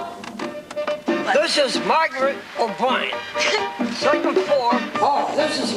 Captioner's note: laughs